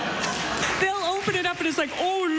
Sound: laughter, applause

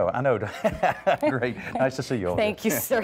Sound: laugh

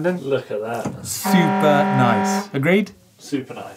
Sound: alarm sound

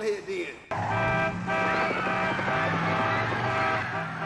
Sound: car hooting

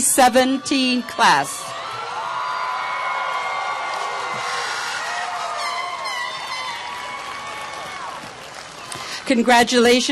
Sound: applause and cheering

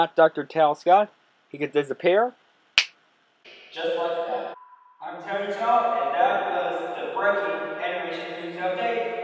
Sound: snap finger; echoing

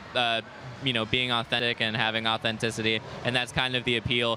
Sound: none

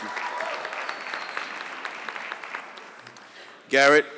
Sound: audience clapping

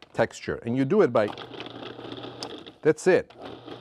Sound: food processor whirring

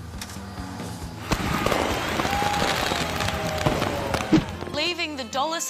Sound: applause, cheering

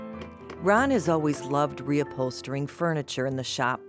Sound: voiceover

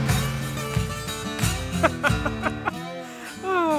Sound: Joe laughs

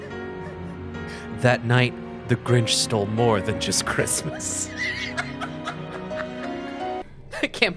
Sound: laughing

